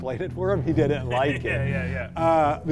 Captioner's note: ominous music continues; both laughing